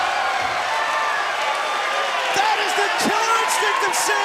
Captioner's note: crowd cheering